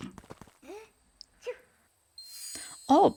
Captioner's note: Luka sneezes